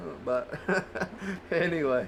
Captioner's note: chuckling